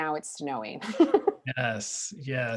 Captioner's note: laughing